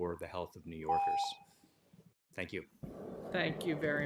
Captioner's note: timer tone